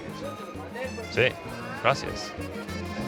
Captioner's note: speaking Spanish